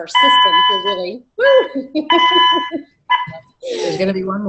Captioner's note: beeping